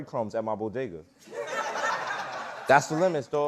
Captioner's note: laughter